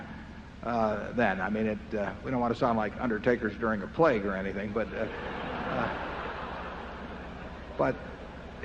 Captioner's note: laughter